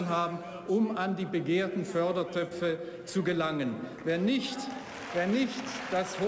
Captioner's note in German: Beifall